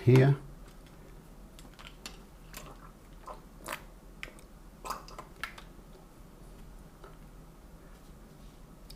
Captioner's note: silence